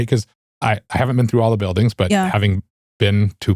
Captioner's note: none